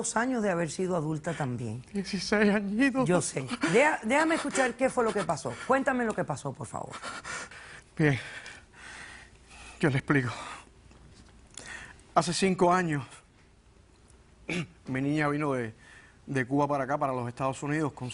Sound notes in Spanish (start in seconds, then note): 3.4 Sollozando